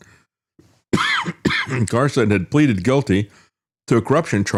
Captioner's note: coughs